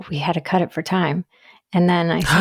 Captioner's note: gasps